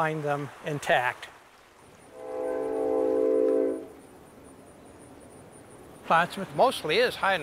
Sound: train whistle

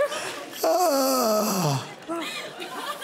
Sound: Gerry groans

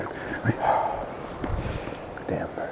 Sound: sigh

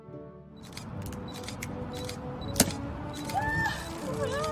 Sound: camera shutters clicking

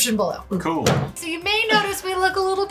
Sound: thump

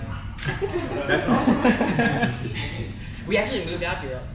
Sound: crowd laughs

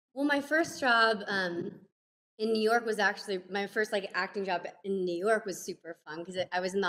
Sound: none

